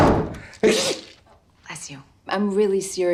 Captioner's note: sneezes